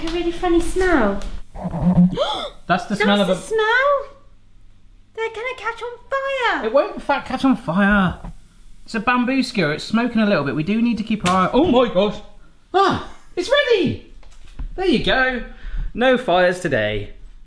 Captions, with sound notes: and there's like, a really funny smell. (gasping) That's the smell! They're gonna catch on fire! - It won't catch on fire! It's a bamboo skewer, it's smoking a little bit. We do need to keep our eye-- (toaster popping) Oh my gosh! It's ready! There you go, no fires today.